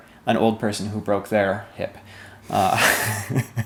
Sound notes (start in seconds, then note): 2.5 both laugh